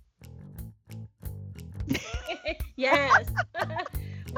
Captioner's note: everyone laughing